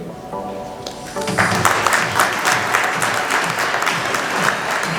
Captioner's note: applause